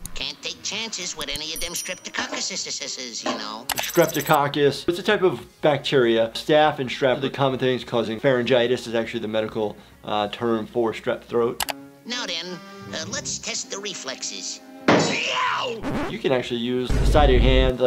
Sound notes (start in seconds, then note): 14.9 banging sound; 15.1 Tasmanian Devil screams